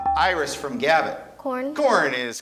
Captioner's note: buzzer chimes